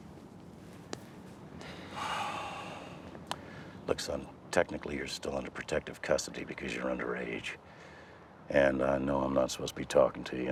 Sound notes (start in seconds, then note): 1.6 sighs